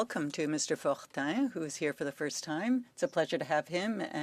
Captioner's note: speaking in French